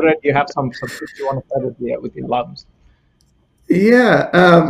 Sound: radio interference drowns out speaker

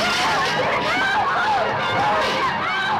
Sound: passengers screaming

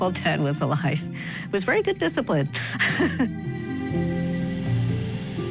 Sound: laughs

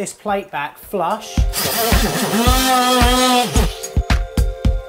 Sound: saw whirring

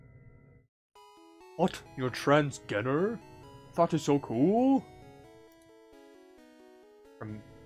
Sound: King Harkinian voice

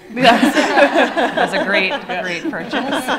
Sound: laughing

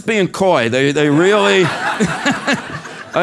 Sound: laugh

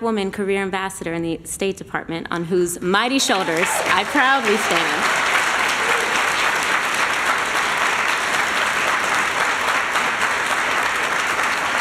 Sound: applause

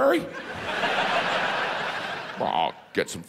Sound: audience laughs

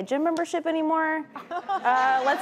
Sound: crowd laughing

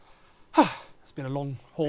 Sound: sighing

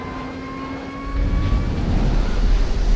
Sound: car goes off ramp

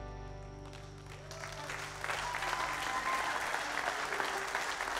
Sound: crowd applauds

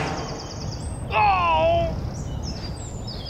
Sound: dying sounds

